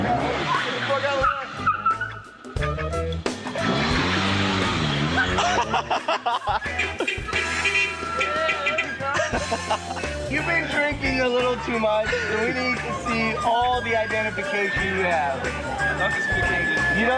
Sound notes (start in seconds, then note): 9.0 laughter